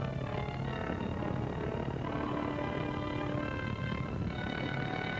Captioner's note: fire roaring; dramatic music continues